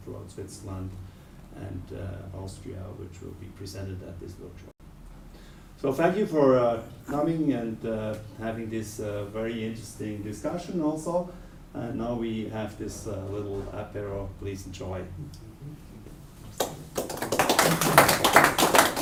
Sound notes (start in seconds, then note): 16.5 clapping